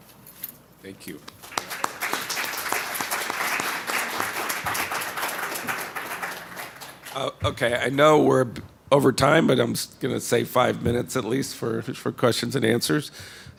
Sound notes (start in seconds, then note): 1.2 applause